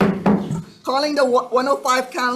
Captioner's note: hammering gavel